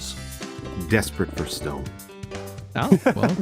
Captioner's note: laughs